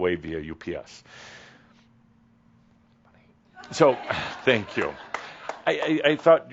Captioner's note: someone giggles